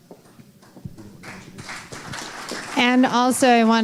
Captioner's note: applause